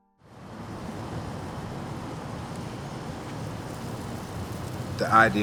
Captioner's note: traffic noise